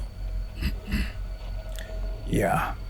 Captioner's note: sound of clearing throat